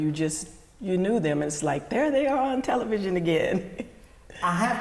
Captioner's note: laughs